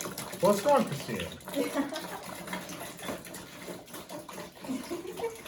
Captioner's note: laughs